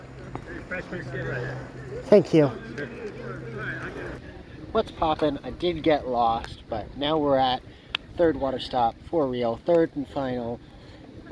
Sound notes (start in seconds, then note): 1.7 exhaustedly